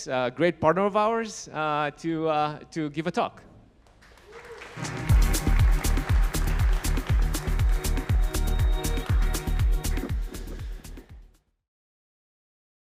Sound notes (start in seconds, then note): 3.8 audience clapping; 4.7 bright upbeat music